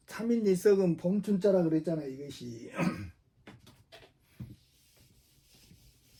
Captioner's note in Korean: 목을 가다듬음